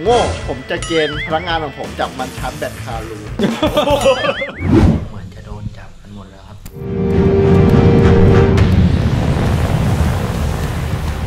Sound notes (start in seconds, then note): 3.3 laughs; 3.4 Pat; 6.6 tense music playing